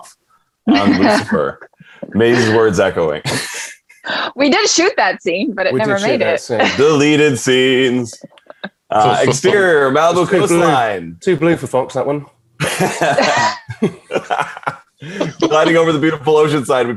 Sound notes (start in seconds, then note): 12.6 everyone laughing